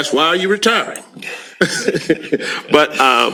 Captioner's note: laughs